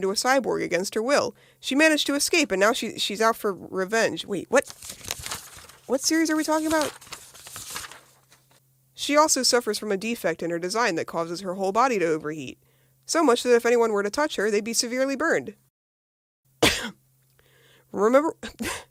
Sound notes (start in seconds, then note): 16.6 cough; 18.4 laughing